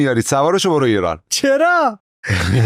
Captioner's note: laughs